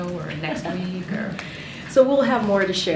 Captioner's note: laughs